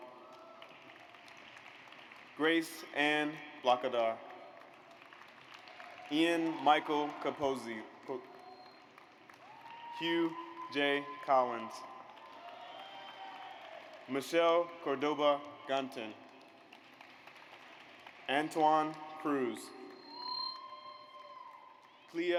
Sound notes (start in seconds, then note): 0.1 audience applauds; 4.5 audience applauds; 8.5 audience applauds; 12.0 audience applauds; 16.9 audience applauds; 20.0 audience applauds